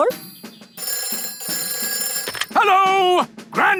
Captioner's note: telephone ringing